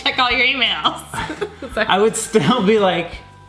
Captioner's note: laughing